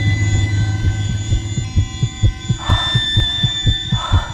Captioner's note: heart beating